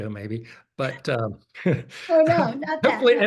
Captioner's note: laughter